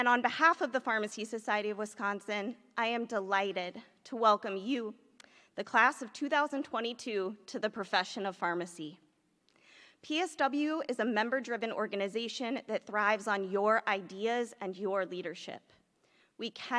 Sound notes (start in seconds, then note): none